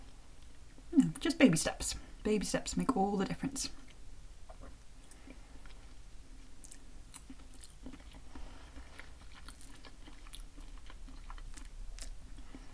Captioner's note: nomNomNom